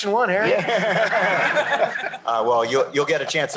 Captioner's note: laughter